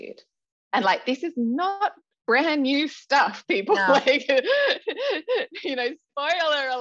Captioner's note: laughs